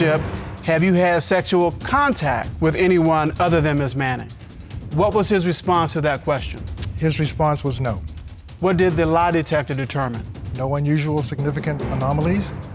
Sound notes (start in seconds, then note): none